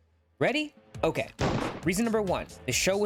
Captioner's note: gunshot